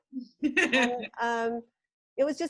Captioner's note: laughs